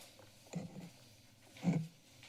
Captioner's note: rustles